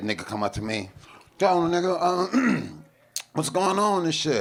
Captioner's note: throat clears